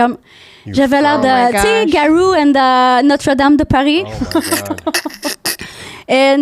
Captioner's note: french